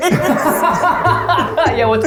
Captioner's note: laugh